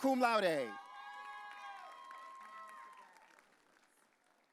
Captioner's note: audience cheering